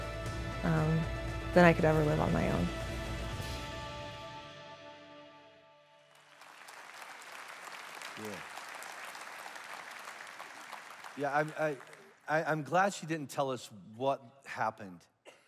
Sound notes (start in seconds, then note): 6.1 congregation applauds